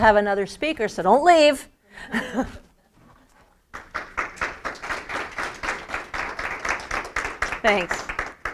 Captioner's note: applause